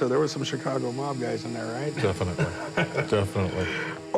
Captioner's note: Corey laughs